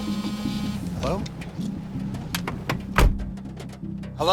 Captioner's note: phone ringing